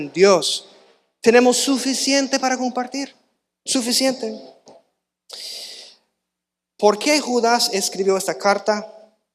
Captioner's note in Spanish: resoplido